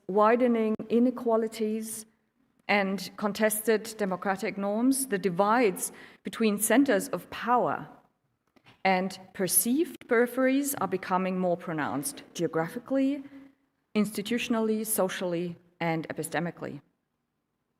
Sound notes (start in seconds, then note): none